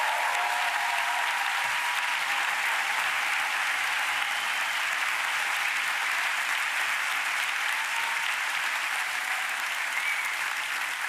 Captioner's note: applause